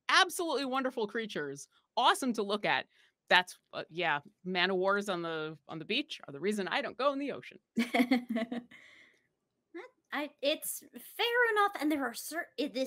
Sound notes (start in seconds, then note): 7.8 chuckles